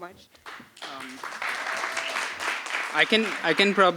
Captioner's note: applause